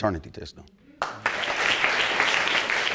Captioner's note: audience applauding